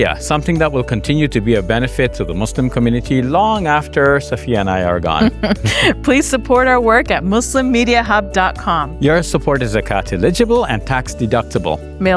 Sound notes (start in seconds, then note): 5.2 chuckles